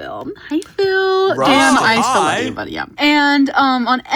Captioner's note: overlapping chatter